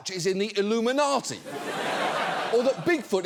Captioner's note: audience laughs